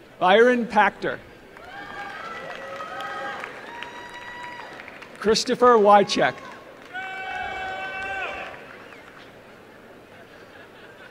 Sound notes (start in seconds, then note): 1.5 applause